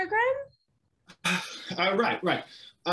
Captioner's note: LUCIFER sighs